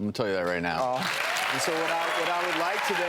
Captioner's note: applause